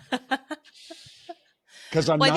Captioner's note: laughing